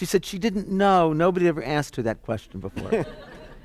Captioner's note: laughter